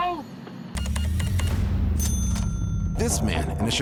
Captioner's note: cash register beeping, dings